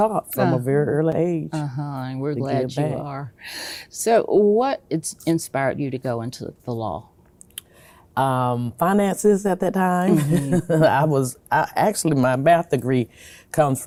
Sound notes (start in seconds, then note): 10.1 laughs